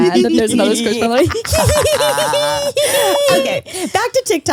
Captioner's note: giggles